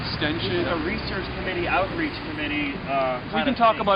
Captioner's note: voiceover